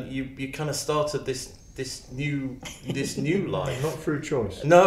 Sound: chuckles

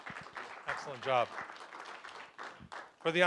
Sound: applause

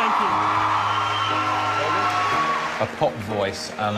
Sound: crowd cheering

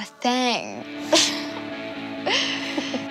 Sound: both laugh

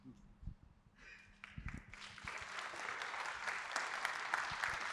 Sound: applause

